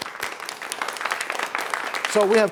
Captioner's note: applause